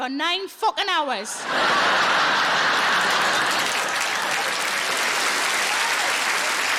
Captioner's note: audience laughing and applauding